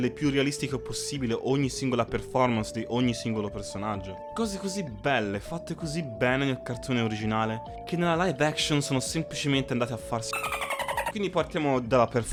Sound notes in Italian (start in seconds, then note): 10.3 effetto sonoro delfino